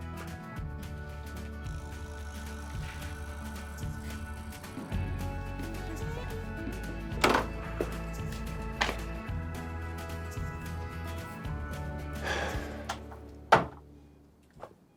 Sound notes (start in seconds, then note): 1.9 country music; 7.2 door opens; 12.1 sighs; 13.4 door closes